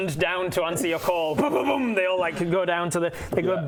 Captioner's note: boom boom boom